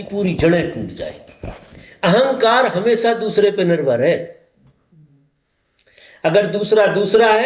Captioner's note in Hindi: गला साफ़ करने की आवाज़